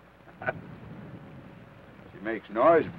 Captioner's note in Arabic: ثيودور يضحك